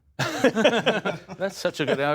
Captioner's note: laughter